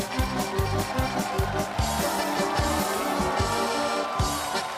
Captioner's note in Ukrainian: оплески